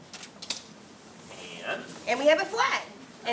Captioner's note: laughs